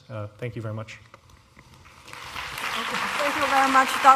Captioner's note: applause